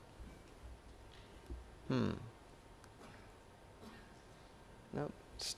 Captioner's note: hmmm